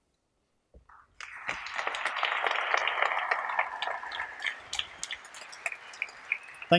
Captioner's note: applause